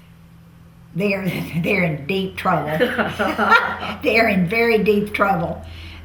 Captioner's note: laughter